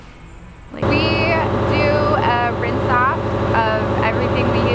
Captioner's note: engine revving